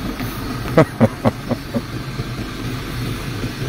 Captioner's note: laughs